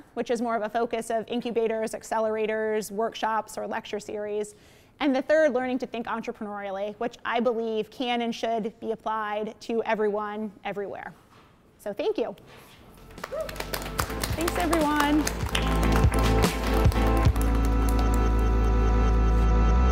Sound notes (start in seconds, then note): 13.0 applause; 16.8 electronic music